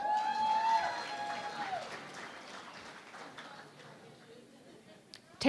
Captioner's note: cheering and Applause